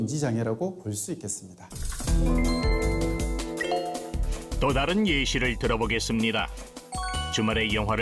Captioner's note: voiceover